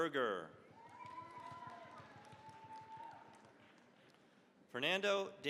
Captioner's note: cheering, applause